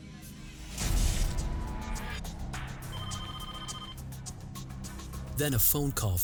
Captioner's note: suspenseful music; phone ringing